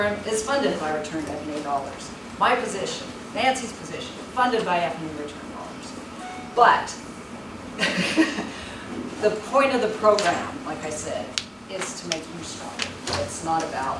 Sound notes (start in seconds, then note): 7.8 laughs